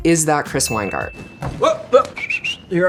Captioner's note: whistles